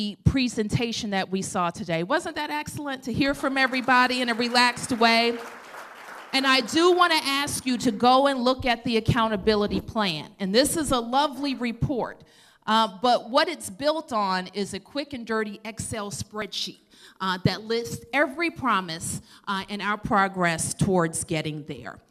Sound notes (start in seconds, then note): 5.5 applause